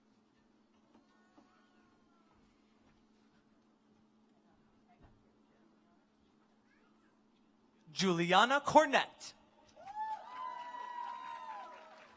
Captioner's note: applause